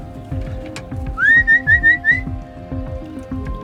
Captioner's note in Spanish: Silbidos